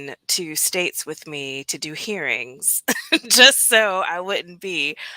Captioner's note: laughter